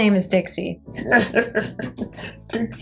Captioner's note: tee hee hee